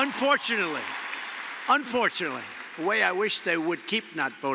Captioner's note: applause